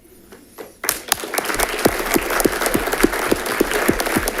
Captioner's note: audience clapping